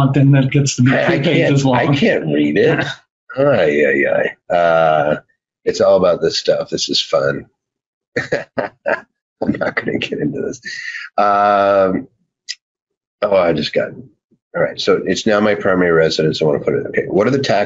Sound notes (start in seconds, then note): 8.2 laughs